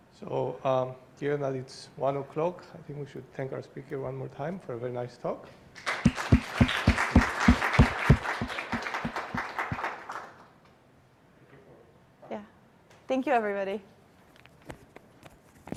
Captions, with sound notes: So given that it's 1 o'clock, I think we should thank our speaker one more time for a very nice talk. [APPLAUSE] Yeah, thank you, everybody.